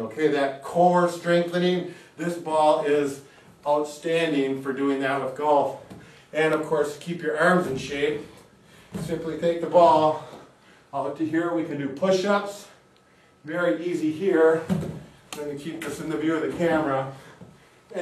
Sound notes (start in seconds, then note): 15.3 hand tapping